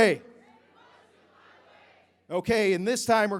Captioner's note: crowd